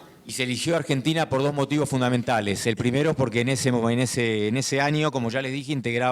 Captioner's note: speaking in foreign language